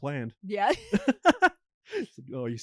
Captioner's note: laughs